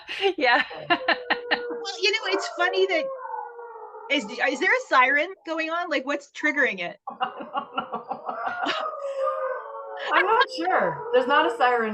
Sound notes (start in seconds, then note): 7.0 howling and laughter